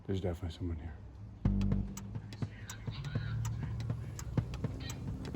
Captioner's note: radio chatter, foreboding music